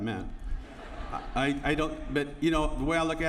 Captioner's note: laughter